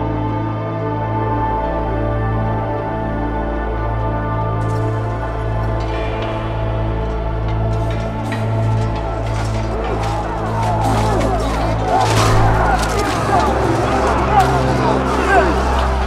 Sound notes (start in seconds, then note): 9.4 grunting; 12.0 yells